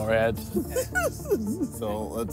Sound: laughing

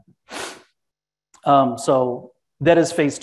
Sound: sniffles

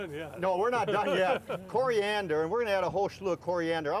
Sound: laughter

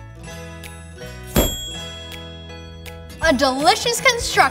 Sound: dinging

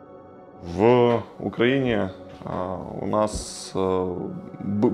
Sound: speaking Ukrainian

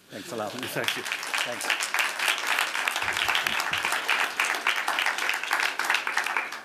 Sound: applause

